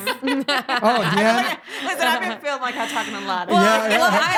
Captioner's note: laughing